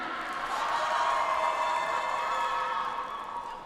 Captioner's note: audience applauds